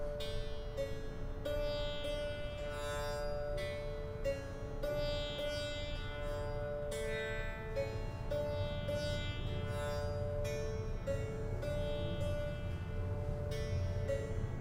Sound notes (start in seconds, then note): none